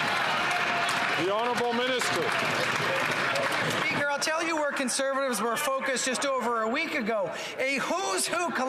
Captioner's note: some Applause